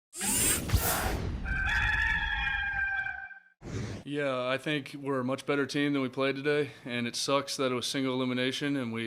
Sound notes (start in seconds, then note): 1.4 rooster crowing